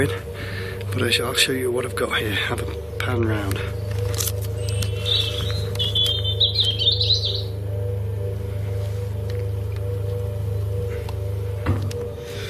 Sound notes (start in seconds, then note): 5.4 birds chirping